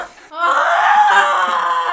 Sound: screams

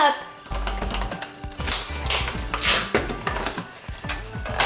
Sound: package ripping

